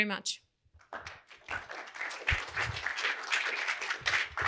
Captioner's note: audience applauding